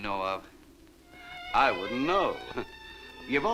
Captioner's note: chuckles